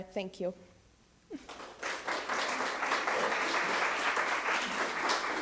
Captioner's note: everyone applauding